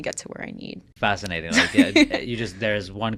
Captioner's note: laughing